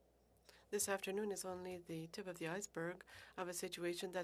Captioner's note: speaking French